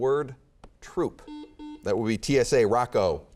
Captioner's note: beeping